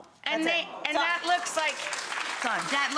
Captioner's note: audience applauding